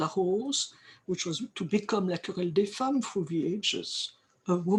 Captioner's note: french; french